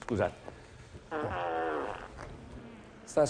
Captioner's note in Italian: rumore di peto